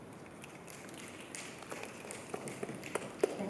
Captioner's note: clicking applause